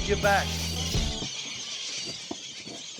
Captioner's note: birds screeching, feeding